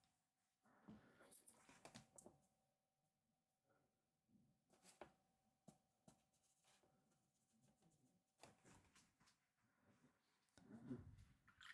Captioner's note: silence